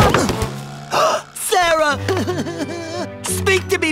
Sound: sobbing

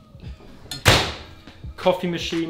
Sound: oven slams

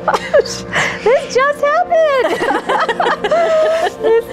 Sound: laughing

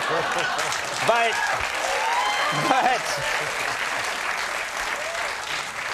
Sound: audience clapping

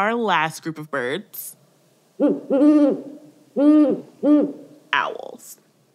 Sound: Great-horned Owl hooting

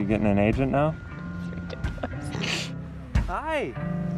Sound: laughs

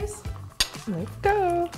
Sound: glass clinks

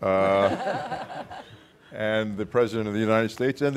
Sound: audience laughing

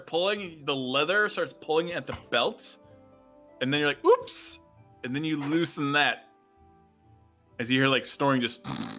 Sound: snoring sounds

